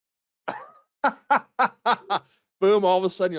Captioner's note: laughing